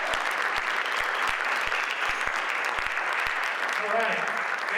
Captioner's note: audience applauds